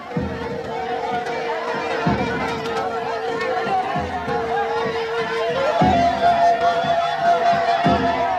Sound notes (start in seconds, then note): 1.2 clamoring